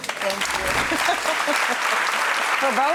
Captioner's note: audience applauds; laughs